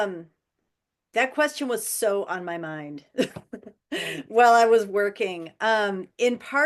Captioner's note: chuckles